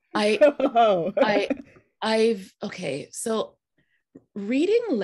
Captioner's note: laughing